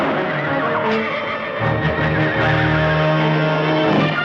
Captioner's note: gunfire; horses whinnying